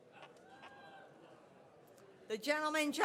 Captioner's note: audience cheers